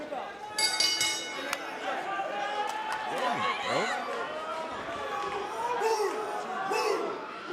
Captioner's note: bell